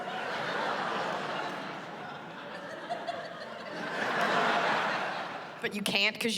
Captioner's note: laughter